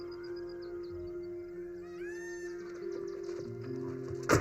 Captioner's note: peacocks squawking